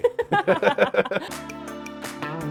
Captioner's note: laughing; upbeat music